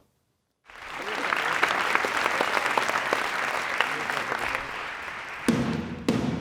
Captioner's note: audience applauds; drum bangs